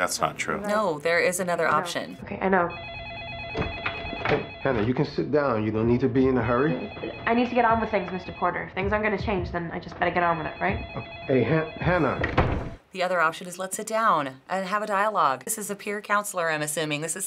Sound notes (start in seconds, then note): 2.6 phone ringing; 11.9 door closes